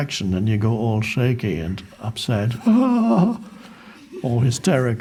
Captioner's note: moans